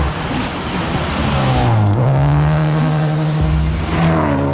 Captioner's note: engine revving